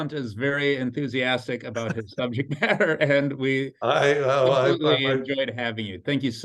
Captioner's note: both laugh